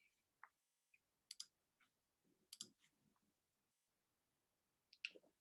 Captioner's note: mouse clicking